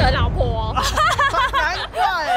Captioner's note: laughs like a boss